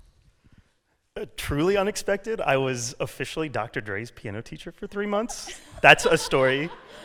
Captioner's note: laughter